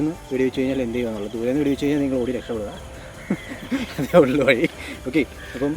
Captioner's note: laughs